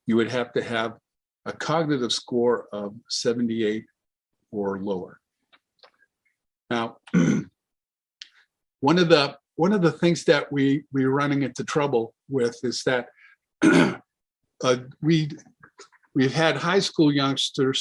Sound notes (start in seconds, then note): 7.1 clears throat; 13.6 clears throat